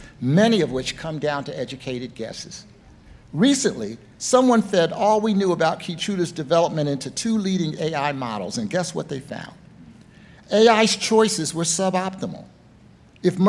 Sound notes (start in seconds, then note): none